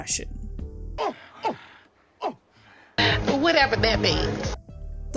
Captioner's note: ape noises